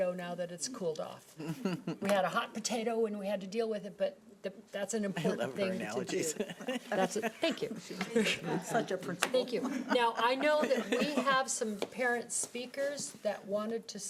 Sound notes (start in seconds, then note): 1.4 laughing; 5.3 laughing